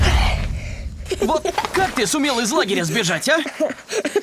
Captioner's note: childish laugh